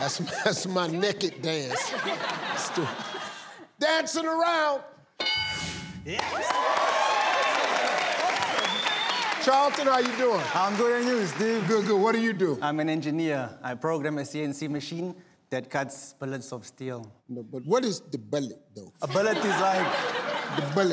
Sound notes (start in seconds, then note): 1.7 audience laughs; 6.0 audience cheers